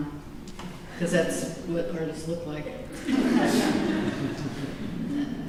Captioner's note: laughter